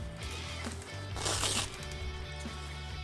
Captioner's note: heavy-duty velcro separating noise